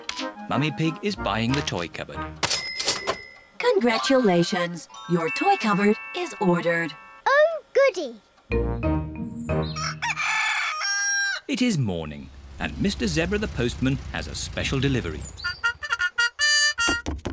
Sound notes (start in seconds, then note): 9.6 cockerel crows